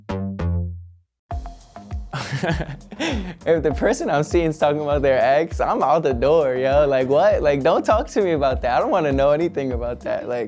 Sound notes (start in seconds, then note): 2.1 laughs